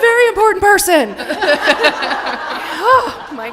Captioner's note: laughter